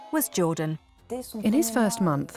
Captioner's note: non-english speech